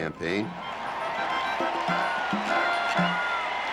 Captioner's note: cheering